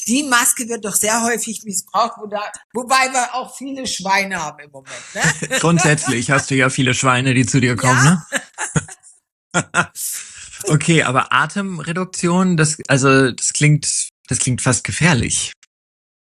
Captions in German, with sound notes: die Maske wird doch sehr häufig missbraucht, wo da wobei wir auch viele Schweine haben im Moment, ne? [gelächter] Grundsätzlich hast du ja viele Schweine, die zu dir kommen, ne? Okay, aber Atemreduktion, das also das klingt das klingt fast gefährlich.